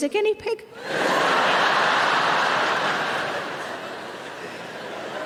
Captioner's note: audience laughing